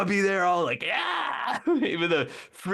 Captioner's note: screaming